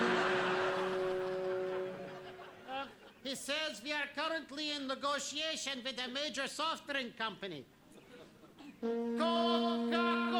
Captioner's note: horn sounds